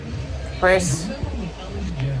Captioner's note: continues playing; normal voice